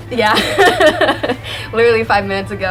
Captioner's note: laughing